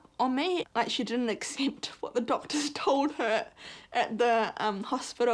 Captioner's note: chuckles